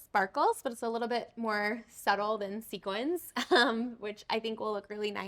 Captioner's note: chuckling